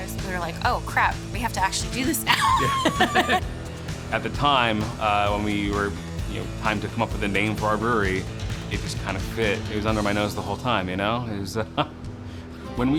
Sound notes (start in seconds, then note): 2.2 laughing